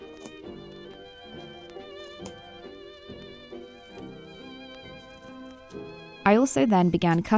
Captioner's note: scissors snipping